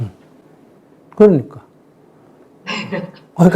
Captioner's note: 질문자 웃음